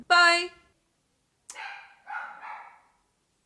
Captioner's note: dog borks